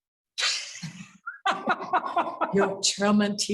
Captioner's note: laughter